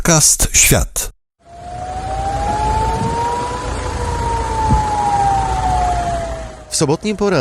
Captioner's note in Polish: Syreny alarmowe